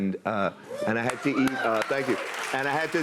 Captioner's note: cheers and applause